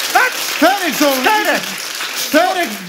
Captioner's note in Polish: oklaski publiczności